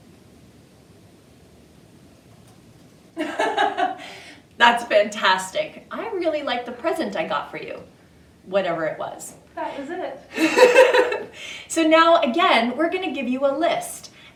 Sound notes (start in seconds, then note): 3.2 laughs; 10.3 both laugh